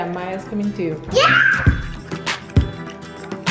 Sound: child yelling; upbeat music

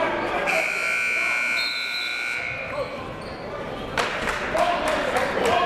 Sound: buzzer; whistle

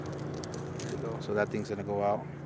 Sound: lure rattling

